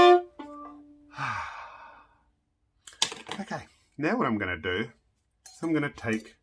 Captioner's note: sighs